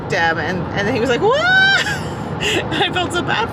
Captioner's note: squeals